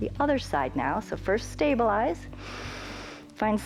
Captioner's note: inhales